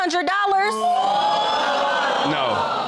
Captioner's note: audience exclaims